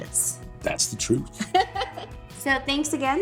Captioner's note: Tori laughs